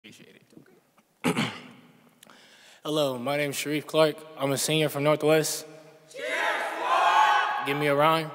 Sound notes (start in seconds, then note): 1.2 clears throat; 6.1 shouts